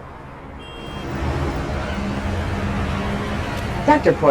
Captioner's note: horn honking